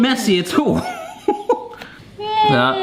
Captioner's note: laughs